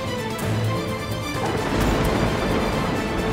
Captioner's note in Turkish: Gök gürültüsü efekti